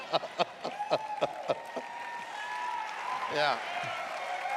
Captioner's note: laughs; cheering and applause